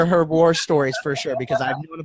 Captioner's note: laughing